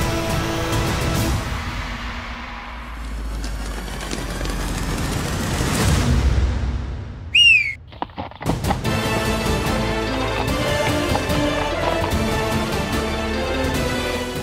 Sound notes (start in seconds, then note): 3.0 footsteps; 7.3 whistling; 10.2 horse galloping